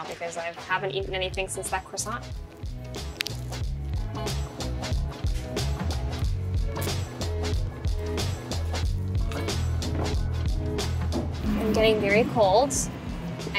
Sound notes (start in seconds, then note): 2.4 food crunches; 5.5 upbeat music